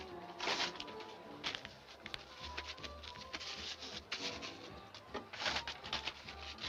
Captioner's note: lively music; paper rustling